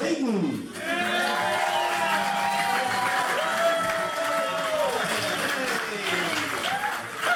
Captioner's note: crowd applause